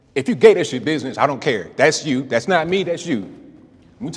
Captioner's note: none